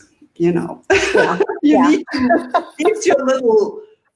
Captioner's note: laughing